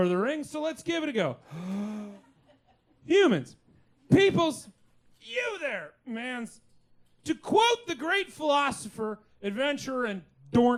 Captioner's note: deep breath